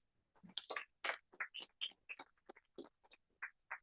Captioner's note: applause